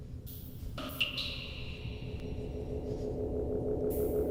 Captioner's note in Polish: Elektroniczne odgłosy kapania